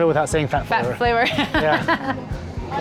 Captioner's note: laughs